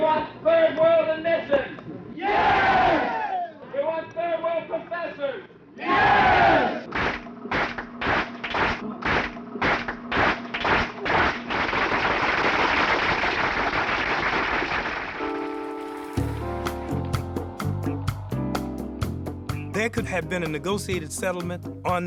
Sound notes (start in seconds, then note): 2.5 crowd; 7.1 crowd clapping; 15.3 soft jazz music